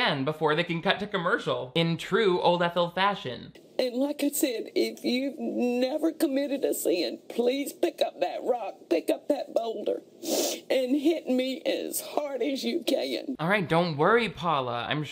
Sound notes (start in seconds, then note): 10.2 sniffs